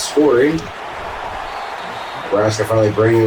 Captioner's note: crowd Noises